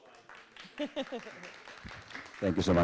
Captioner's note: crowd clapping